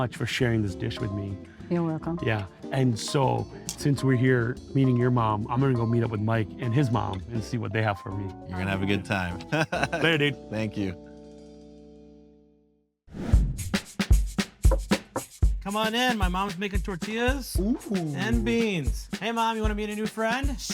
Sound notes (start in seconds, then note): 9.2 laughs; 14.5 upbeat music; 14.6 door knocks